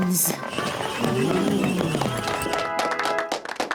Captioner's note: all gasp, applaud